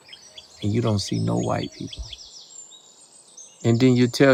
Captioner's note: birds chirping